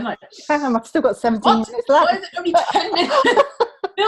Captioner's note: laughs